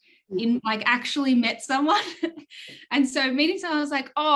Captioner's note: chuckles